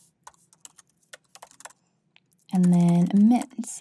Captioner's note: keyboard clanking